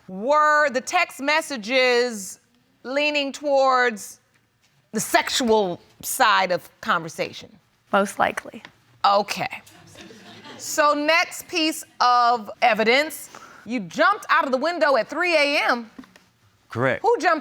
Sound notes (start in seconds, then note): 9.9 audience laughs